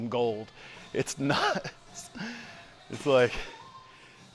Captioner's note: chuckles